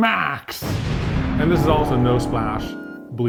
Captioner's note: explosion